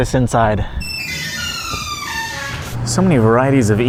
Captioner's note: door squeaking